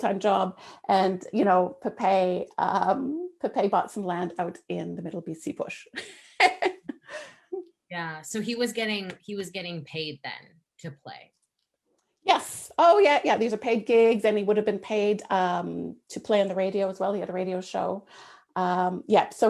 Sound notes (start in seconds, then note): 6.3 laughs